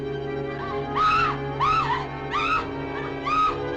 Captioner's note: woman screaming